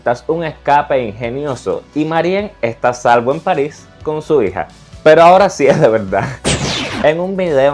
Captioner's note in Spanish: Risas